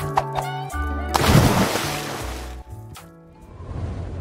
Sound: splash

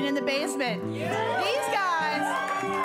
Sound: cheers

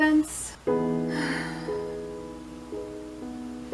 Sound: sighs in 2020

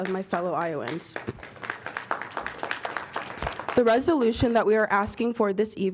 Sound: applause

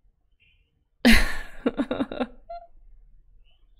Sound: laughs

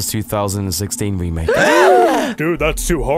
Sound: gasping

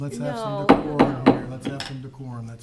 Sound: gavel taps

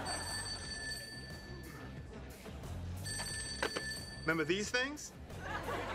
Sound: phone ringing

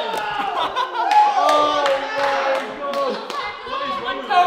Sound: clapping

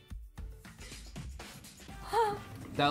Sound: gasps

